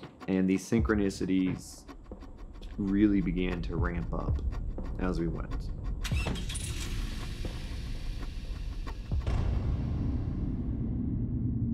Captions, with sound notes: And these synchronicities really began to ramp up as we went. -[Door slams] -[Motor starts]